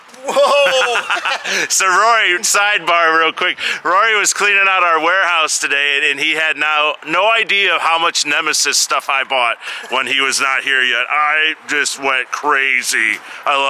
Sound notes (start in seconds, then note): 0.1 laughing